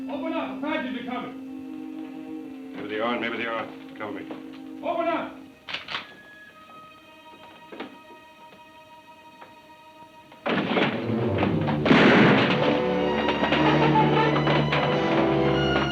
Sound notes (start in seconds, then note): 5.6 gun clicks; 10.4 door bangs; 12.1 gun bangs; 13.0 exciting music